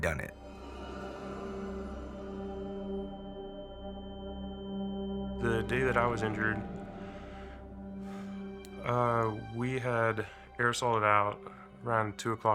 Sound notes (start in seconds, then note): 2.0 high-pitched ringing; 6.6 sighs